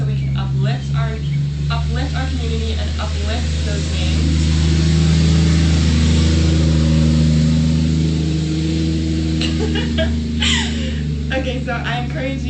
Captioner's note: pauses as loud truck passes; laughs